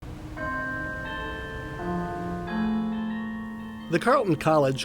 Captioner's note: bells ringing